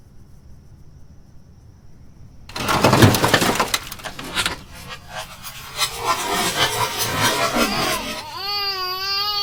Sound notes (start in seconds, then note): 2.5 loud crash; 6.7 insect noise